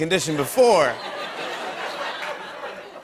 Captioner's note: laughter